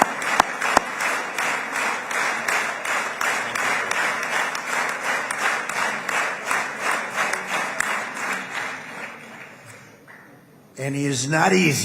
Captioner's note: applause